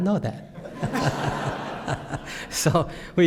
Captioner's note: laughter